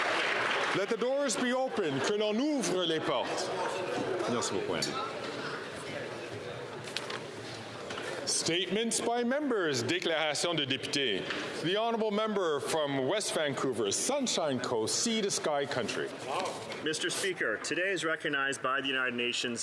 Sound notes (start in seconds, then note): 0.0 some Applause; 6.7 speaking French